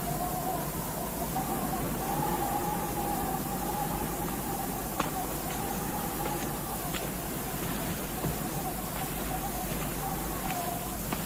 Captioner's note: wind Sounds